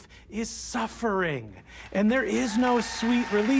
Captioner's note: audience cheering, applauding